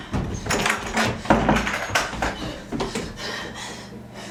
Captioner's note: door clicking